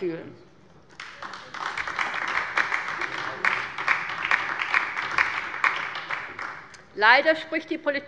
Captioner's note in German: Beifall bei der LINKEN